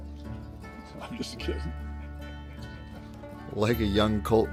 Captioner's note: laughs